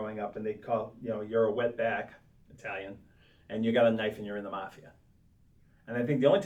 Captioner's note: Italian